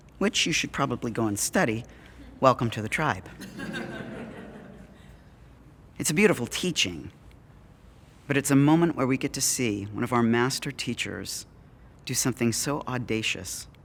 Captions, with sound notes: which you should probably go and study. Welcome to the tribe.” [Audience Laughing] It’s a beautiful teaching, but it’s a moment where we get to see one of our master teachers do something so audacious,